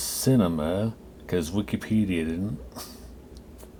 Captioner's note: laughs